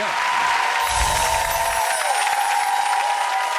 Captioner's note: chimes